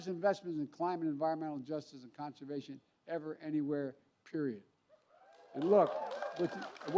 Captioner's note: applause